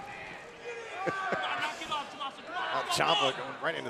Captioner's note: laughter